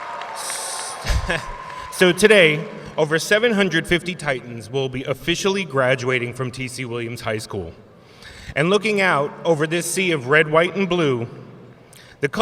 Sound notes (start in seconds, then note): 1.2 laughs